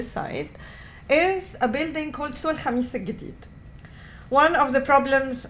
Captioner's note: non-english